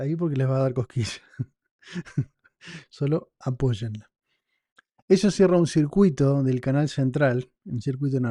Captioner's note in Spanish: risas